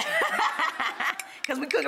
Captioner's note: laughs